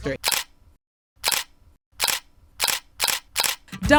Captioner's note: camera shutters